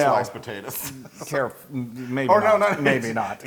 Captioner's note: laugh